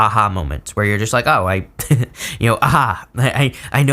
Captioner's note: laughs